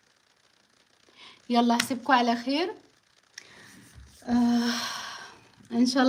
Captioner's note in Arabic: تنهّد